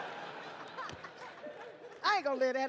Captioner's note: Letterman laughs